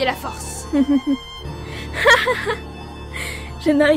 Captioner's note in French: rire